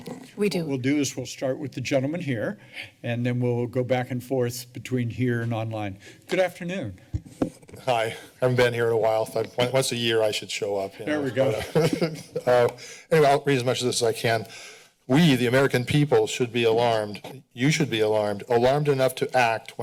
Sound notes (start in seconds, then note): 11.2 chuckles